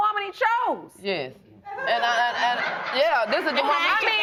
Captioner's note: audience laughing